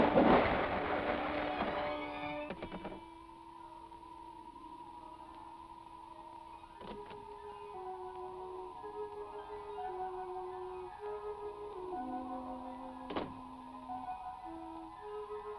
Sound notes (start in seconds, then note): 3.3 eerie warbling; 7.4 suspenseful music